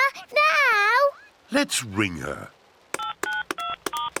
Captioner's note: phone beeps